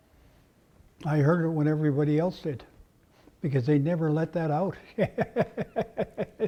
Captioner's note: laugh